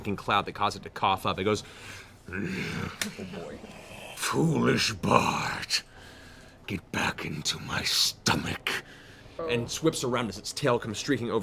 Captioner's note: growls